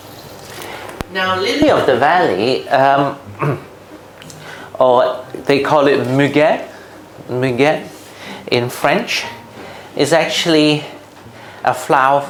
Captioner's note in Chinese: 法语发音